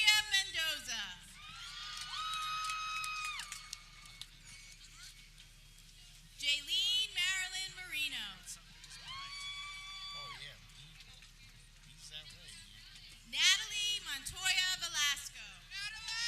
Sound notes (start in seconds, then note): 1.3 people cheering; 8.7 people cheering